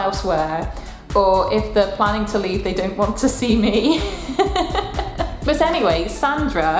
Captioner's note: laughs